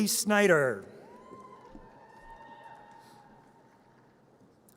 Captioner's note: audience cheers